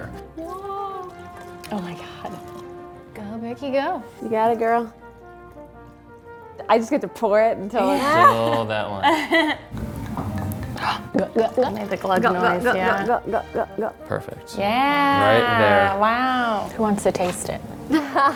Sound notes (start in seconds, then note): 5.4 triumphant music; 9.7 wine glugging; 9.7 imitating glugging; 18.1 laughs